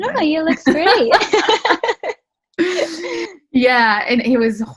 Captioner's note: laughter